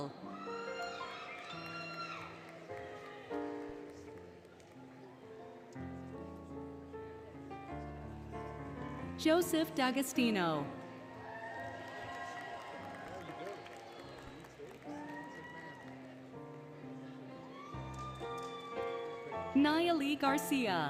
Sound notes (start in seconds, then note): 0.2 applause, Cheering, Music; 10.9 applause, Cheering, Music; 12.5 indistinct Chatter, Music; 17.5 music, Cheering